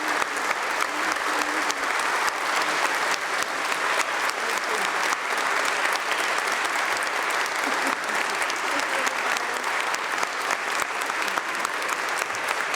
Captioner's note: applause